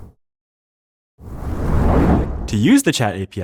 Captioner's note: whoosh